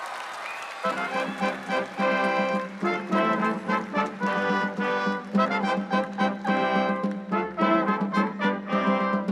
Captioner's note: applause